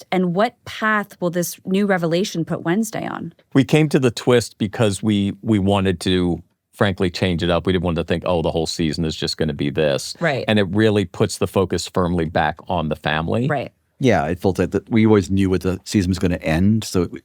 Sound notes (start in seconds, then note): none